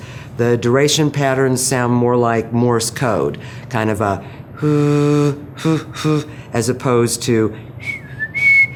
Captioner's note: humm ing sounds